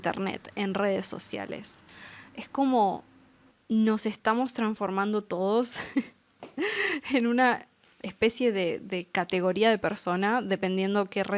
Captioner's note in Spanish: risas